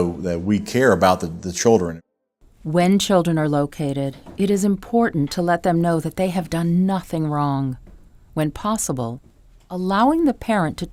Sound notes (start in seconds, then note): 2.7 voiceover